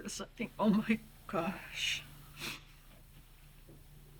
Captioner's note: sniffs